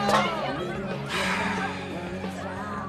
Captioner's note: SlGHS